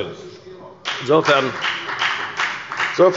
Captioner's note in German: Beifall bei der FDP